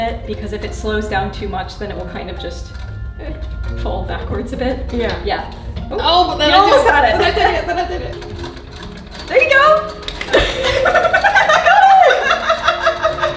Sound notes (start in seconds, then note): 6.3 laughs; 8.7 wheel clacking; 10.1 hands clap; 10.2 both laugh